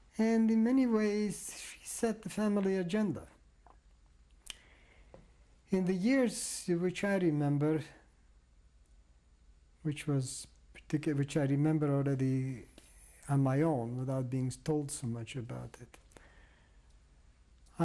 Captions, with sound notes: And in many ways, she set the family agenda. [PAUSES FOR 3 SECONDS] In the years which I remember, which was particular which I remember already on my own, without being told so much about it--